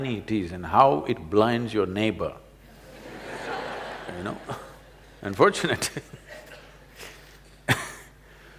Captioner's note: laughter